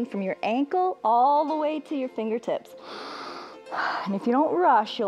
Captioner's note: inhales